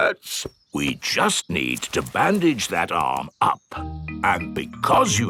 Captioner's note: in teddy's voice; in normal voice